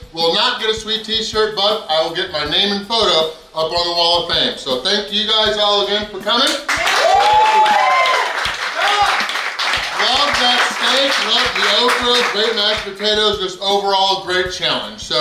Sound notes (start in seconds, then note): 6.6 cheering & Clapping